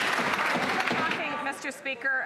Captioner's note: some Applause